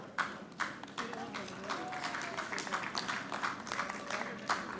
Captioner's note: audience clapping